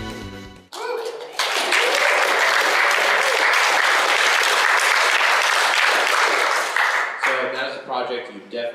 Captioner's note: applause